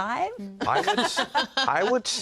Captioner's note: laughter